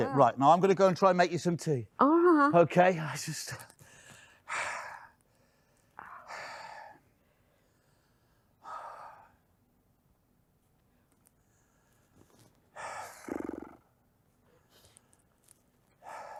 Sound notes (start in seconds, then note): 3.8 breathing heavily